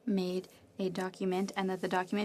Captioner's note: speaking French